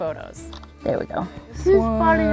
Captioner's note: camera snap